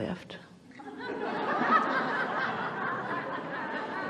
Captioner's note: the audience laughs